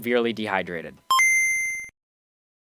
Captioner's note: GameBoy startup sound